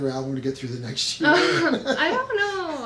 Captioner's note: laughs